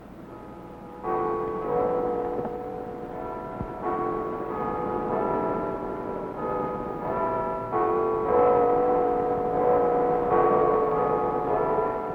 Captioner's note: church bells